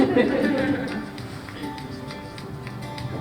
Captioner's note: laughter